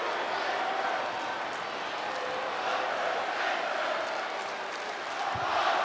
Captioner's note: audience chanting and clapping